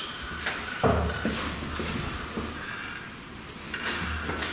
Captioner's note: knocking